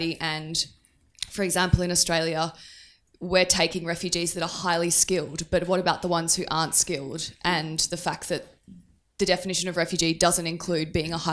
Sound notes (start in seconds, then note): none